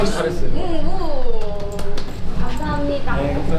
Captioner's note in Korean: 짝짝짝